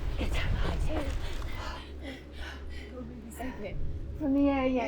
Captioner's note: both gasp